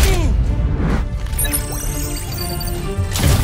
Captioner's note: beeping